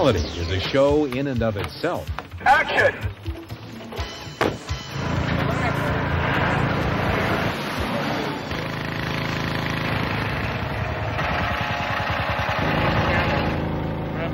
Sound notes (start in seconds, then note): 4.3 body thuds; 5.2 tractor moving; 7.8 water pumping; 8.6 machine rattling